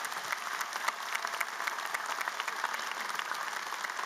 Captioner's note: applause